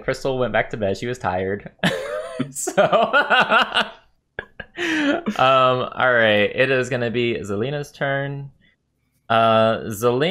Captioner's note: laughs